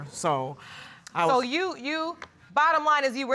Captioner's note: Judge Lake stutters